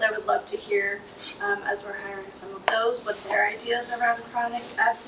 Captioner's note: none